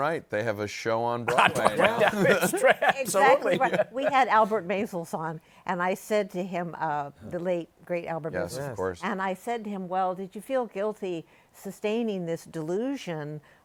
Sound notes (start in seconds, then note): 1.2 laughing